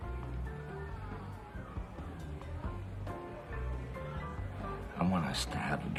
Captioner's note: distant party music; distant chatter